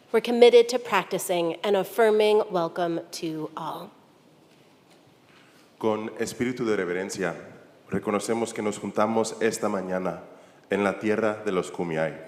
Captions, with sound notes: we're committed to practicing and affirming welcome to all. (church member speaking in Spanish)